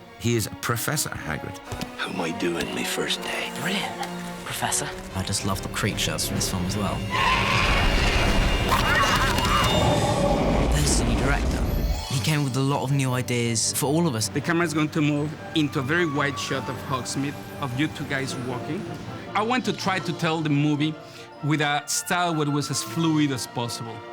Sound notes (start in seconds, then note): 8.7 book snarling